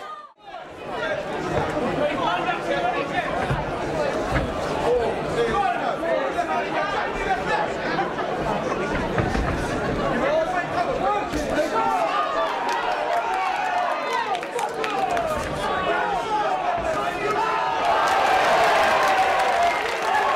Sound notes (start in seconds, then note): 12.1 crowd cheering and clapping